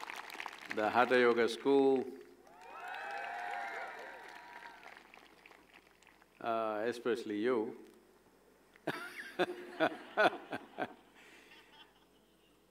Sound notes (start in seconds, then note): 0.0 cheering/Applause; 2.4 cheering/Applause; 9.7 laughs